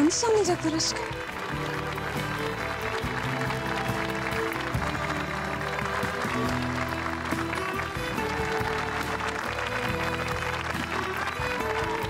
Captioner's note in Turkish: Alkış sesi